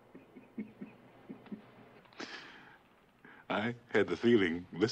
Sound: Barney chuckles

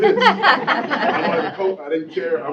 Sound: laughter

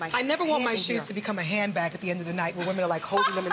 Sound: laughter

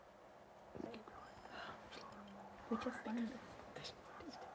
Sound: students whispering

